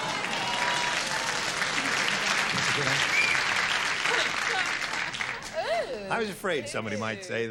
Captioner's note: cheering